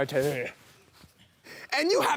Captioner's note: heavy breathing